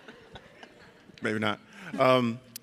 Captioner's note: audience laughs